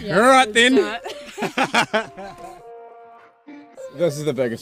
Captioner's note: both laugh